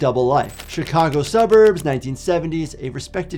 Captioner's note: typewriter clacks